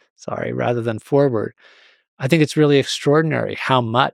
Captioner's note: none